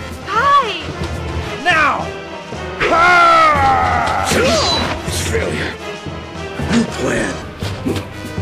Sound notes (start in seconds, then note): 4.3 sword crashing